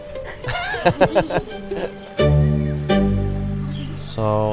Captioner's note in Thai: เสียงหัวเราะ